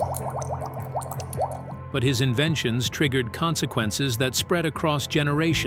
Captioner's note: bubbles bubbling